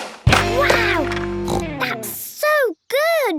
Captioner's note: snorts